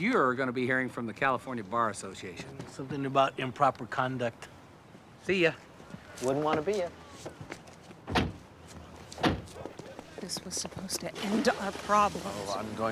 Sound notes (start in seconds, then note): none